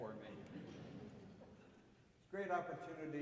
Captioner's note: audience chuckling